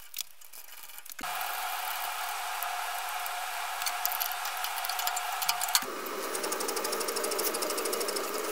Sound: motor Whine

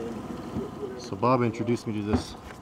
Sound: background chatter; boat engine running; scraping

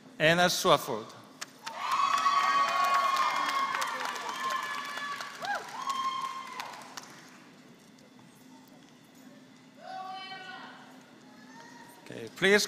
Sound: applause

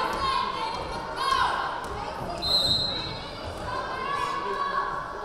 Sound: whistle blaring

